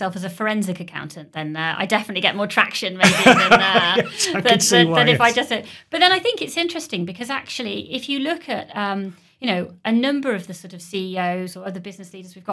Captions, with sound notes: as a forensic accountant, then I definitely get more traction. *Laughing* I can see why, yes. Than if I just don't. But then I think it's interesting because actually, if you look at, you know, a number of the sort of CEOs or other business leaders we've got,